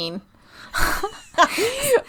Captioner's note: laughing